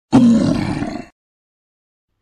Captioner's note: troll Growling 👺